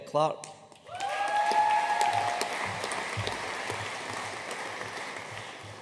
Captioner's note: audience cheering and applauding